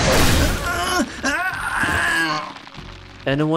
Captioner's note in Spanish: grita